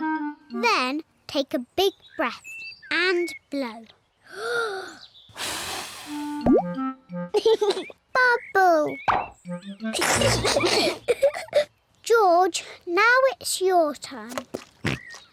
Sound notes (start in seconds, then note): 3.8 takes big breath and blows; 7.3 laughs; 9.9 both giggle; 14.4 oinks